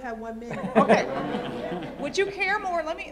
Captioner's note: laughs; laughter